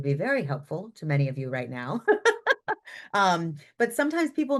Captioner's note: laughs